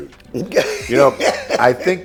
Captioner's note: laughing